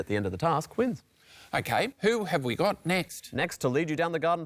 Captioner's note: none